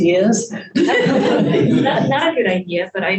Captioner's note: group laughs